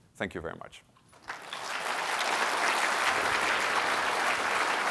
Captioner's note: applause